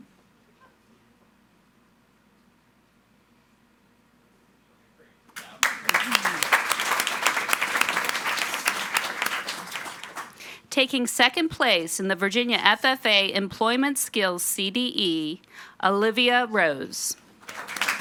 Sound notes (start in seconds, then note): 5.3 audience applauding